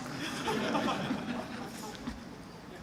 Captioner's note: laughter